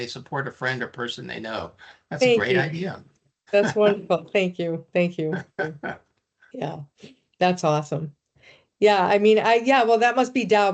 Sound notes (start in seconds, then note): 3.6 laughing